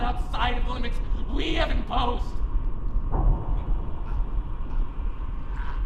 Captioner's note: choking